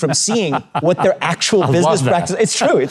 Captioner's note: laughing